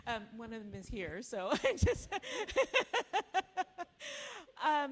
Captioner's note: laughs